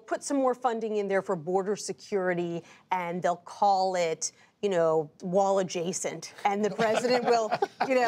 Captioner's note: laughter